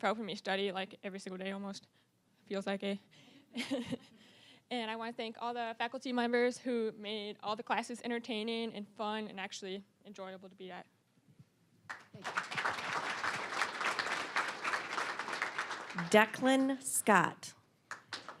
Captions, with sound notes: for helping me study like every single day, almost. It feels like it. (chuckling) And I wanna thank all the faculty members who made all the classes entertaining and fun, and actually enjoyable to be at. (applause) >> Decklyn Scott.